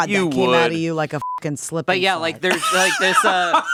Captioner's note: beeping; laughing